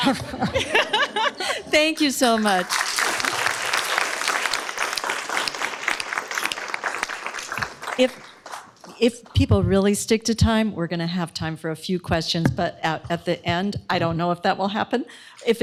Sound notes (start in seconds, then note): 0.0 laughter; 1.7 applause